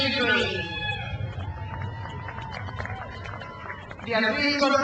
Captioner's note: crowd cheers